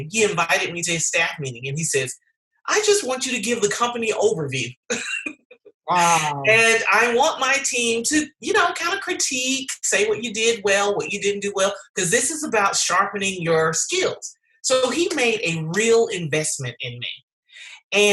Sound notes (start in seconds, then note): 4.8 laughing